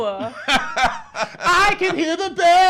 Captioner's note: laughs